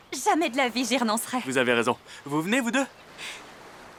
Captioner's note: laughing